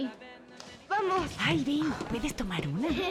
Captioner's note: whispers